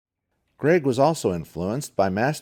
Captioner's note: voiceover